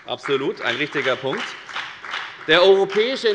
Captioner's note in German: Beifall bei der FDP